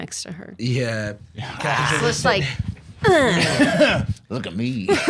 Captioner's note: aggressive grunt